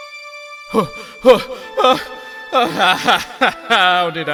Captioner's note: frustrated groan